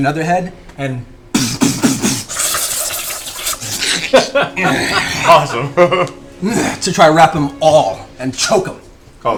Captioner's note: bashing, tying sounds